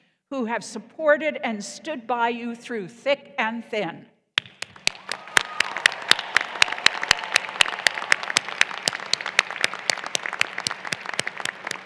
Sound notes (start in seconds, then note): 4.6 applause